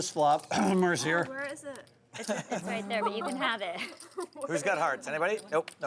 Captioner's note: clears throat